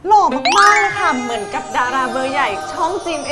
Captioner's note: sweet talking